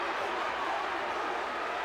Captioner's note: crowd cheering